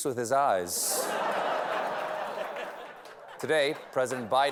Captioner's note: laughter